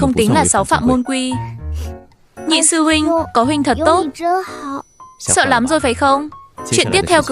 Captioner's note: khịt mũi